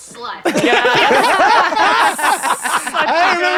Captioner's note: laughter